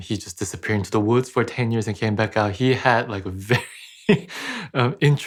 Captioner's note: laughs